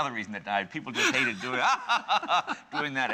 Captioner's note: evil laughter